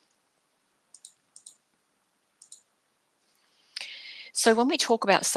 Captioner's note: mouse button clicking